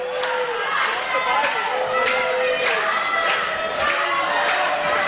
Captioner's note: crowd calls loudly